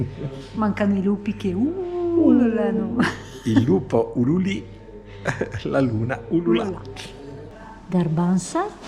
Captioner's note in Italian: Risate